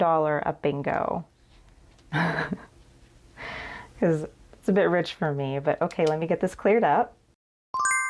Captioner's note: laugh